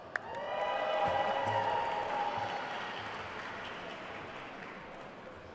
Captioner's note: attendees cheering and applauding